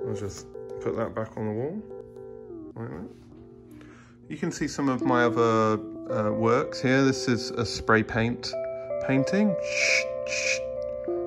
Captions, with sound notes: I'll just put that back on the wall, like that. You can see some of my other works here. This is a spray paint painting (imitates paint spraying).